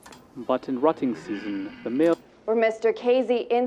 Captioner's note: voiceover